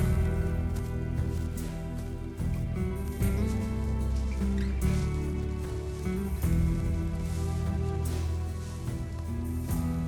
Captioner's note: footsteps